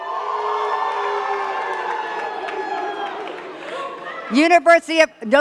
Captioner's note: cheers and claps